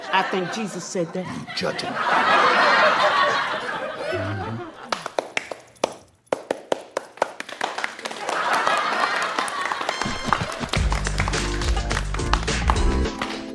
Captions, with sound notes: - I think Jesus said that. - You judging. (audience laughs) (group claps) (soft music)